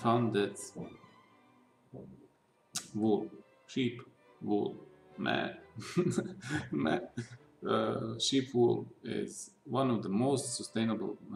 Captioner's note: chuckles